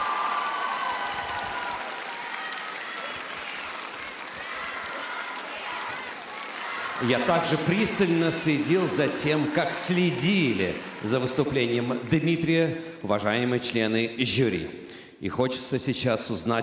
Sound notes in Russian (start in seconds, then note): 0.0 аплодисменты; 2.8 ликование; 4.7 аплодисменты